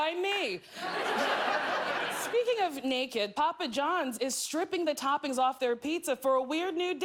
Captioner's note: laughter